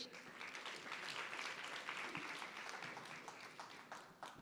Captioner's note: applause